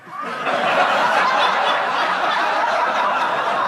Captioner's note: audience laughs